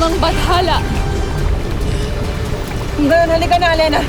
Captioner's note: powerful whoosh-crackle